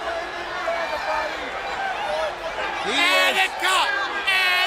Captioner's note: crowd chatter